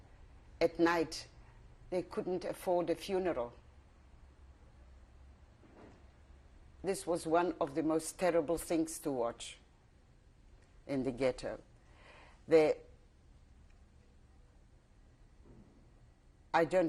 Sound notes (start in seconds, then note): 3.4 pauses for 3 seconds